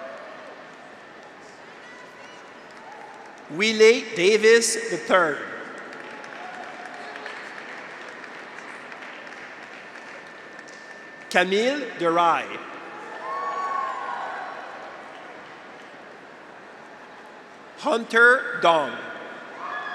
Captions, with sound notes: (graduates cheer) (audience applauds) Wiley Davis, III. (audience applauds) Camille de Ry. (graduates cheer) (audience applauds) Hunter Dong.